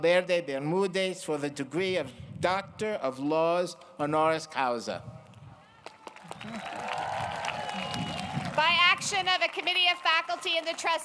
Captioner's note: applause